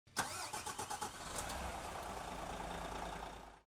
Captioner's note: engine revving